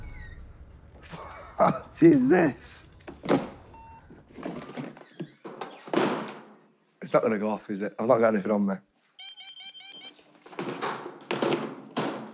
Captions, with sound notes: What is this? [machine beeping] It's not gonna go off, is it? I've not got anything on me. [machine beeping]